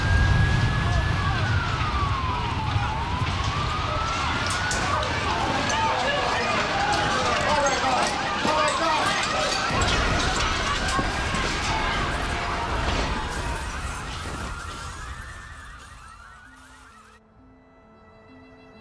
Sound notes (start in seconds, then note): 0.1 sirens wailing; 6.4 debris falling, people calling in panic; 14.1 sirens blaring, car alarms running